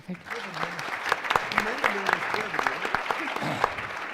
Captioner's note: applause